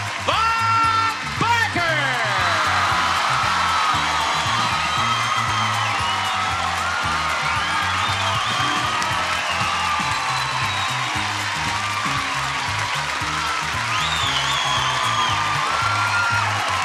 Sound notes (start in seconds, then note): 2.1 audience applauding; 2.1 upbeat music